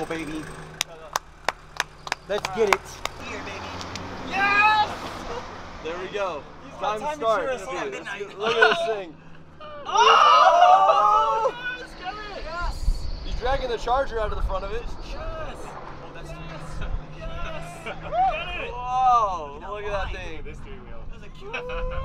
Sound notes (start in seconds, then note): 1.4 onlooker clapping; 6.7 crowd chattering; 9.1 crowd gasping; 15.2 crowd cheering; 21.4 crowd cheering